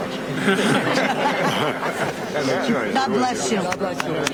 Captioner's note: laughter